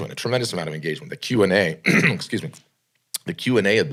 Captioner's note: coughs